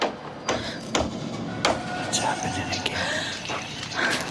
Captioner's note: hammer banging; gasp